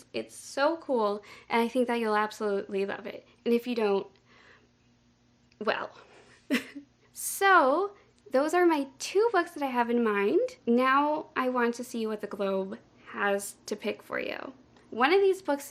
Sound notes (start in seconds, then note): 6.5 laughs